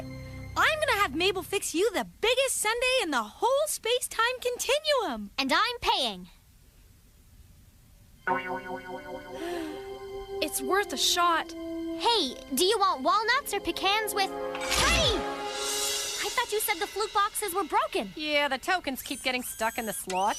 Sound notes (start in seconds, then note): 9.3 sighing